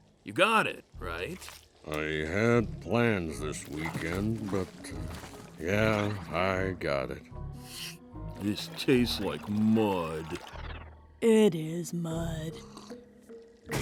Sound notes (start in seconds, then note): 8.4 slurps